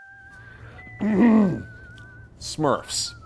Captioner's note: coughs